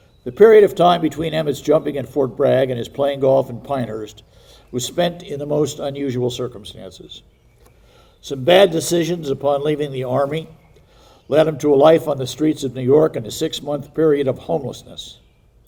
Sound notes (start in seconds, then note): none